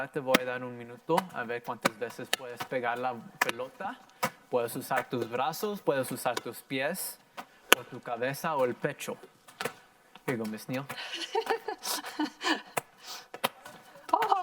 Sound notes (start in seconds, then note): 0.1 in foreign language; 3.7 plastic popping; 6.5 ball bouncing; 10.9 laughs